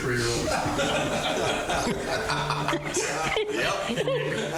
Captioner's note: all laughing